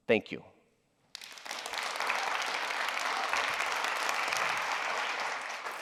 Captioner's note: applause